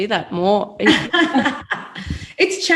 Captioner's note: laughing